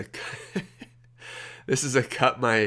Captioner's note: laughs